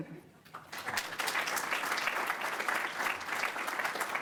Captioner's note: audience clapping